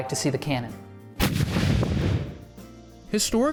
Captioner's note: cannon booming